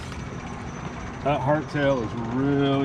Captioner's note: fish splashing